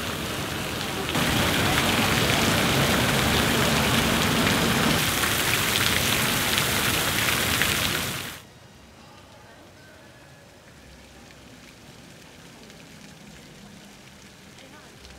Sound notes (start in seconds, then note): 0.0 fountain splashing; 10.7 fountain gently splashing